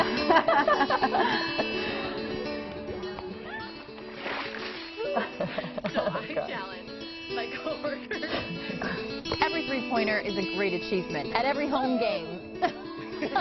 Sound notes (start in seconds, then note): 9.9 laughing